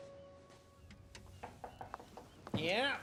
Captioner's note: knock on door